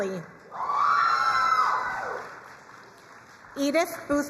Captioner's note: crowd cheering and applauding